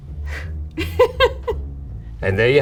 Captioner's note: laughing